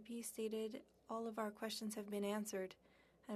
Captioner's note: speaking French